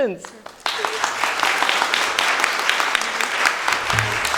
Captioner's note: audience applauding